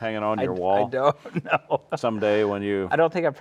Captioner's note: laughing